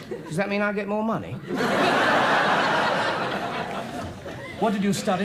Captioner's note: audience laughs